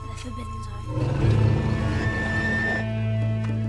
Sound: metallic roaring; screeching

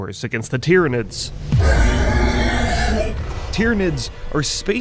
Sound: Tyranid screams

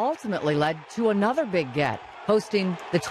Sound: cheering

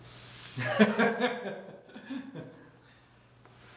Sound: laughing

